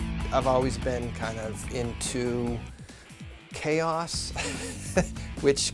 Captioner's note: raucous music; laughs